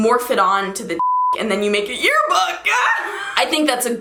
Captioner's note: laughs